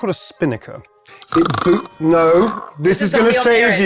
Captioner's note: snoring